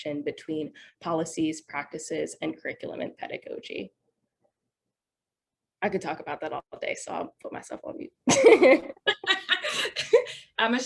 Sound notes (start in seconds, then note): 8.2 laughing; 8.4 laughs